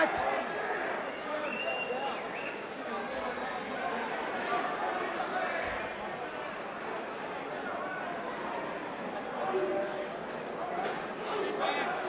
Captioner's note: crowd chatter